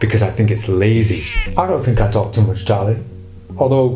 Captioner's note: cat meowing